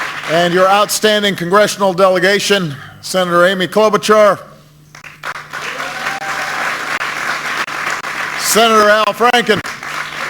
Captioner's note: applause; applause